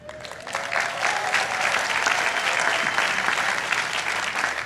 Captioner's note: audience applauding